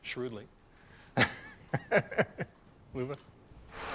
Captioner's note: laughter